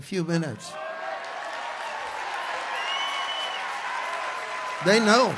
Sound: congregation cheers

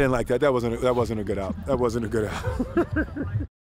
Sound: camera man laughs

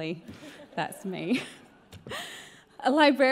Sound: laughs

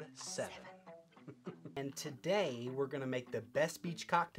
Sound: chuckles

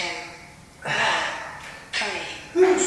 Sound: breath out

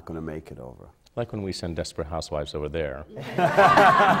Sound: laughter

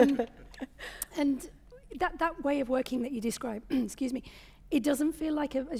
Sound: clears throat

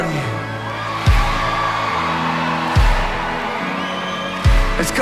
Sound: cheering

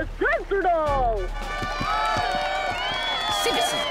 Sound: fanfare, cheering and applause

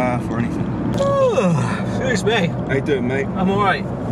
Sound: yawns

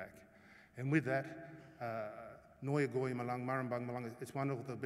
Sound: non-english speech

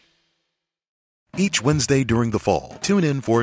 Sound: voiceover

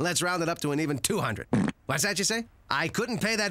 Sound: passing gas

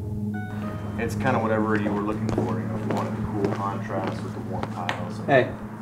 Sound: background chatter

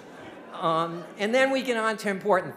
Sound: audience laughing

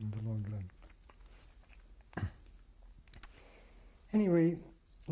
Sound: pauses for 3 seconds

